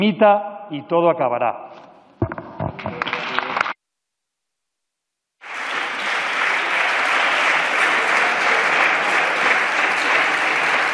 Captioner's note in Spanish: Aplausos